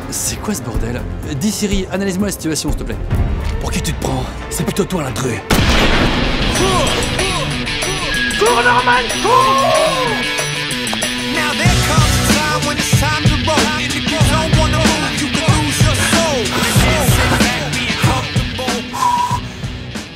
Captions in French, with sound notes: C'est quoi ce bordel ? Dis Siri, analyse-moi la situation s'te plaît Pour qui tu te prends ? C'est plutôt toi l'intrus ! *coup de feu* *musique d'action* Cours Norman, Couuuurs ! *musique d'action*